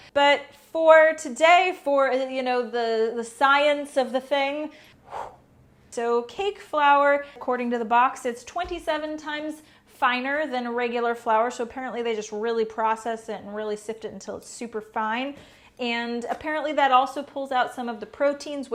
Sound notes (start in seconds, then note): 4.8 whoosh